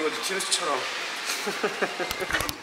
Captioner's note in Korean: 가소롭다는 웃음